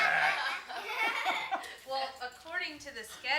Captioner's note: all laugh